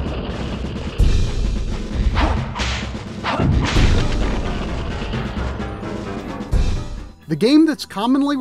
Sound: game audio

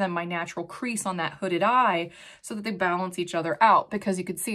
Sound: none

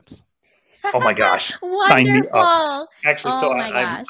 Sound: laughs

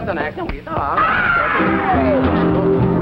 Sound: shouting

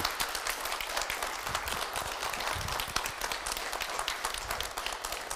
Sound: crowd continues to applaud

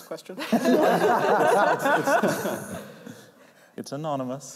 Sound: laughter

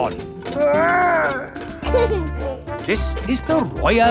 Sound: giggles

